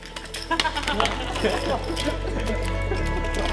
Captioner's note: laughter